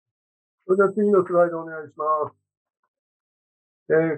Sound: speaking japanese

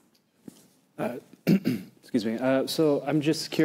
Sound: clears throat

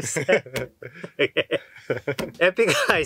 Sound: laughs

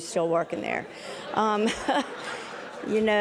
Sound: laughter

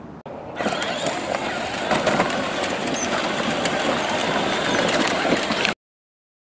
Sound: toy car noises

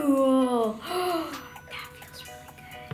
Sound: gasping

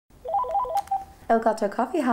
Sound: phone ringing

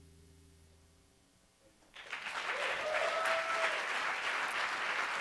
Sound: applause

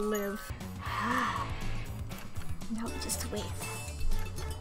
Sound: sighs

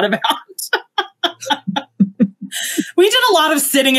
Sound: laughs

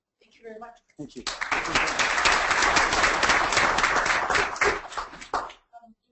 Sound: audience clapping

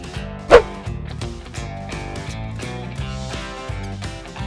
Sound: upbeat country music; air whooshes

